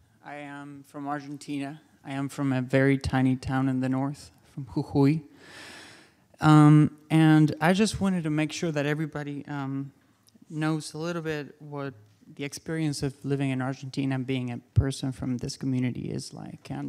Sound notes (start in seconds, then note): none